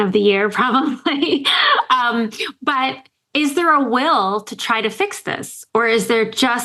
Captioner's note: laughs